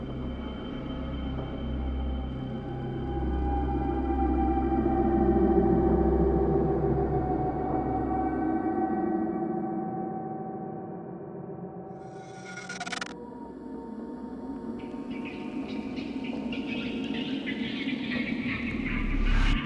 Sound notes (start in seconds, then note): 4.7 ominous music continues; 12.5 eerie music; 16.0 eerie laughter